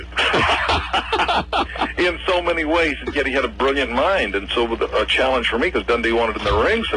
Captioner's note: laughs